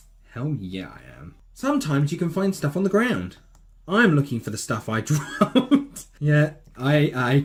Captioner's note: chuckle